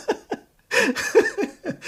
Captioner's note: laughs